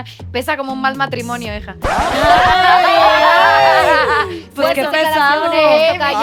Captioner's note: collective gag